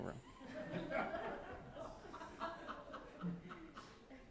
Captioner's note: laughter